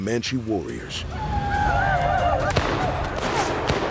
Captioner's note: yelling, gunfire